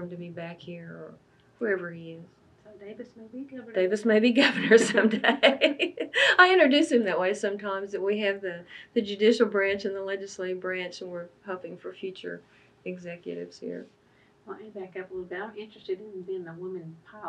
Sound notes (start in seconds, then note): 4.4 laughs